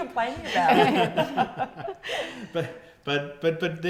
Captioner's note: laughing